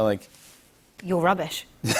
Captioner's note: laughter